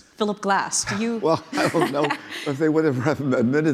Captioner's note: laughing